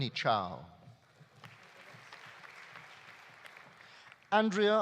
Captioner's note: audience applauding